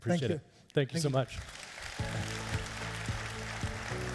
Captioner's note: applauding